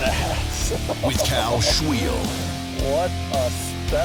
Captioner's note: voiceover